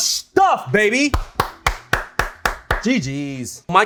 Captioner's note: clapping